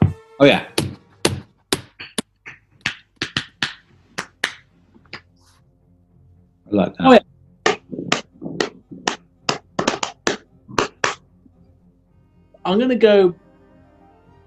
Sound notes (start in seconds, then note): 1.7 joins in with tapping; 7.6 rhythmic tapping